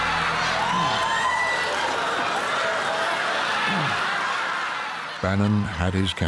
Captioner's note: audience laughing; audience cheering